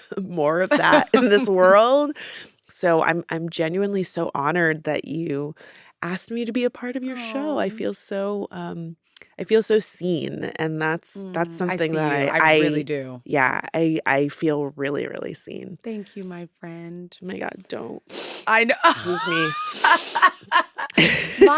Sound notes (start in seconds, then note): 18.1 sniffs; 18.9 laughs